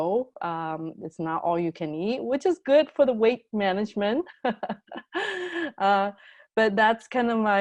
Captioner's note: laughs